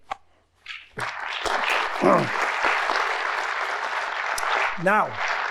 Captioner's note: audience applauding